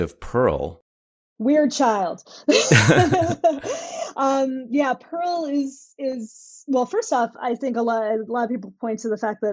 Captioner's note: laughter